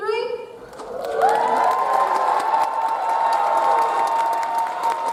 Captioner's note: audience applauds